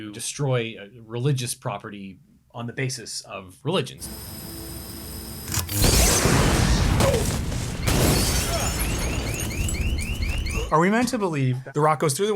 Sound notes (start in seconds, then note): 5.6 object explodes; 8.6 alarm rings